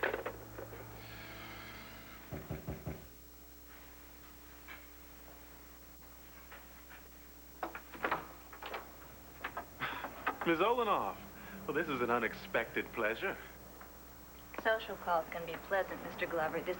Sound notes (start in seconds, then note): 2.3 knock on door